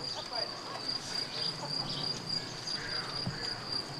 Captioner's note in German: Grillenzirpen